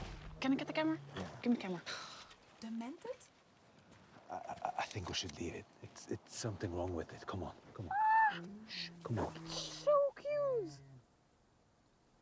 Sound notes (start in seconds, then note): 4.2 scoffs